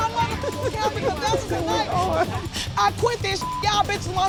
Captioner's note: laughing